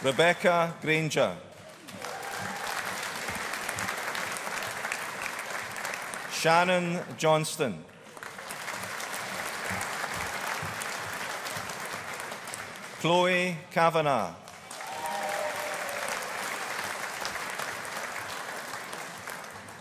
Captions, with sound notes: Rebecca Grainger. (AUDIENCE APPLAUDING) Shannon Johnstone. (AUDIENCE APPLAUDING) Chloe Kavanagh. (AUDIENCE APPLAUDING)